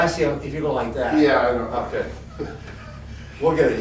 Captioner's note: laughs